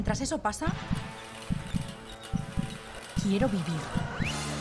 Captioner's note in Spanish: Latidos de corazón